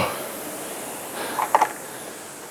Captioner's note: breathing heavily